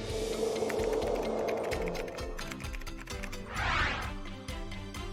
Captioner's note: gentle music; keyboard typing